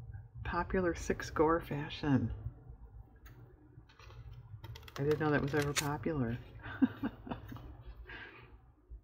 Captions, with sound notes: "popular six gore fashion" i didn't know that was ever popular (laughs)